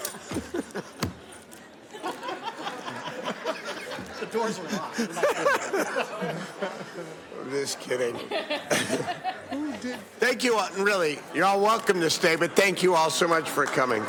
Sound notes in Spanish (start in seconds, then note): 8.1 risas